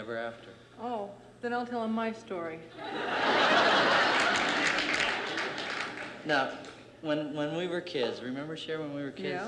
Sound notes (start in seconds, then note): 2.8 laughter